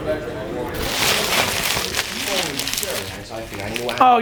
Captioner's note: rustling